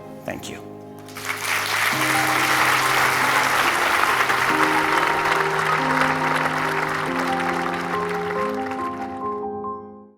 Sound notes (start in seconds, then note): 1.8 audience applauding; 3.7 upbeat music